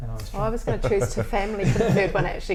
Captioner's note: laughs